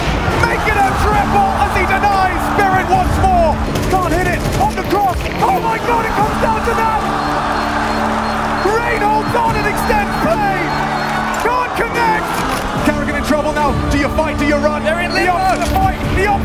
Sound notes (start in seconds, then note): 5.9 bomb beeping; 7.4 crowd cheering